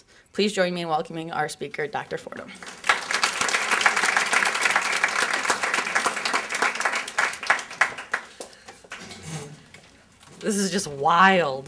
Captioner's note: applause